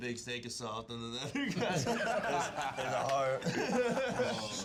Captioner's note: laughs